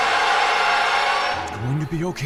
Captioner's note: shrieks